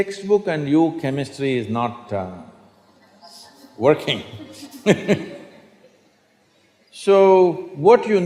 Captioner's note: laughs